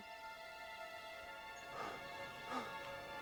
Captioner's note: panting